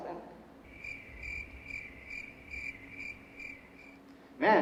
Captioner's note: cricket noises